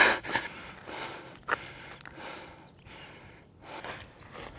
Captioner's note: footsteps